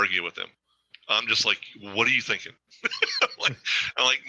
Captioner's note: laughs